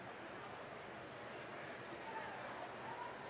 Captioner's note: none